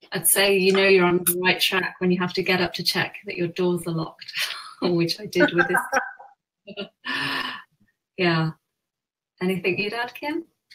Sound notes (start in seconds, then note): 5.4 laughs